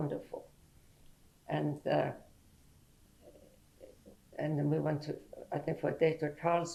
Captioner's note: pauses for 3 seconds